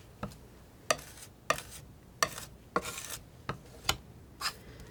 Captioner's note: scratching